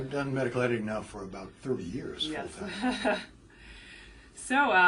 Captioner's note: laugh